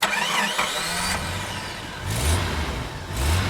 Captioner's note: engine starts; engine revs